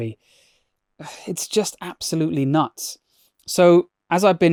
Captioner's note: sighs